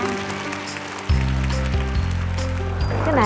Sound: applause

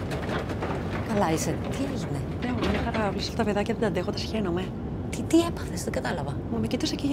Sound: cart rolling; Vanina and flight attendant speaking foreign language

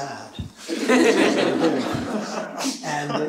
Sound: chuckling

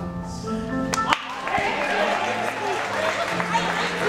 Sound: applause

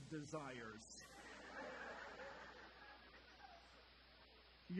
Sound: audience laughter

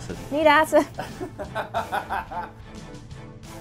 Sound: interviewer laughing; intense music

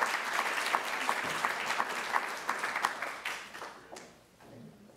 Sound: applause

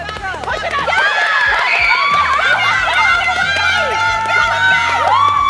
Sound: excited cheering

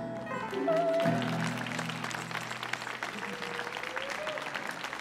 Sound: audience applauds

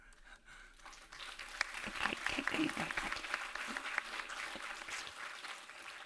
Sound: everyone applauding

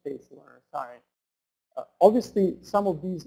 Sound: voiceover

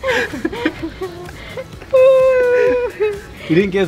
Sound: laughing

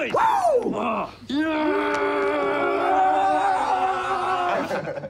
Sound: all growling; laughing

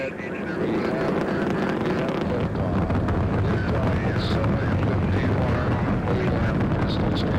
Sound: intense Static Sound

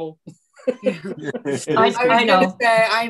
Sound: all laughing

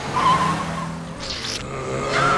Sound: moaning; screaming

